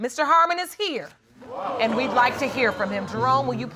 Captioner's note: audience exclaims